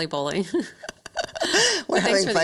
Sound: both laughing

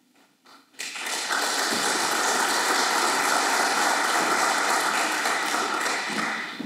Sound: applause

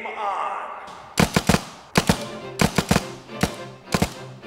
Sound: paintball gunfire exchange

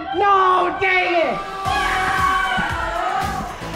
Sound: yelling

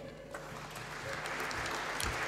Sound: applause

